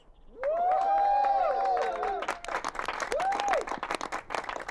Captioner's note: crowd cheers and applauds